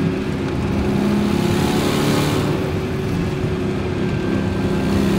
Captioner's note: engine humming continues